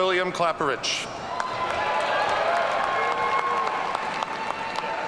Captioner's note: audience cheering